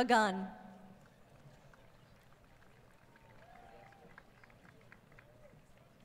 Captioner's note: applause